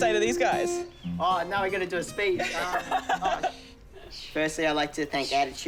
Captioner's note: laughs